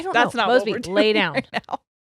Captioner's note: laughs